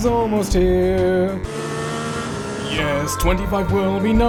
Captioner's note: race-car sound